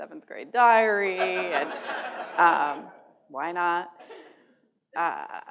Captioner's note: laughter